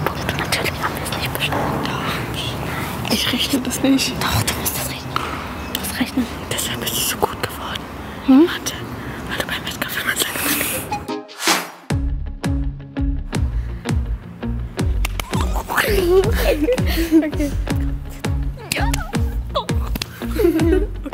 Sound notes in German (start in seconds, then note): 11.5 Angespannte Musik; 15.2 Aufgeregtes Kichern; 18.6 Kichern